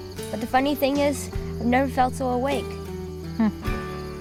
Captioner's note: chuckles